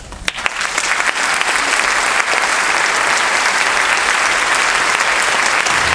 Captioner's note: applause